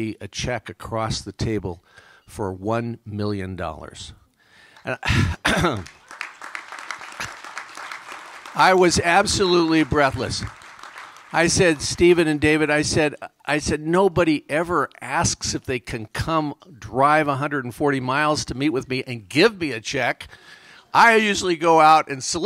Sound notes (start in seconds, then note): 5.5 applause